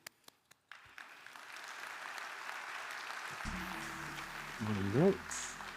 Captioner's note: audience applauding